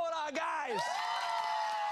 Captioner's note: cheers and applause